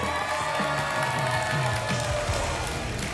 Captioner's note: applause and cheering